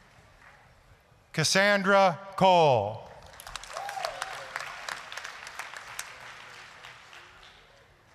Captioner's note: applause, cheering